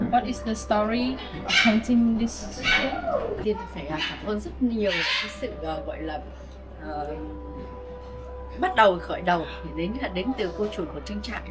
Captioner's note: speaking in Vietnamese